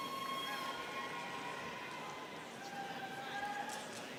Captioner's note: students cheering